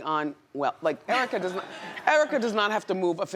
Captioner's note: audience laughs